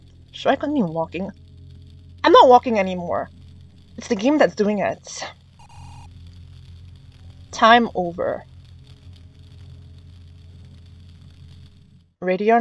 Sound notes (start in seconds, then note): 5.2 skidding sound